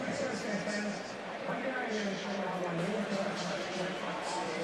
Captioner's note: pa announcement